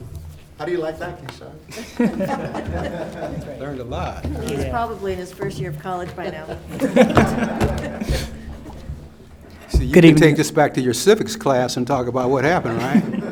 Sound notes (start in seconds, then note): 1.7 everyone laughs; 6.2 everyone laughs